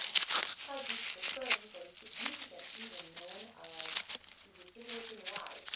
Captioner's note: loud ripping of paper